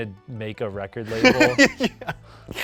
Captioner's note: laughs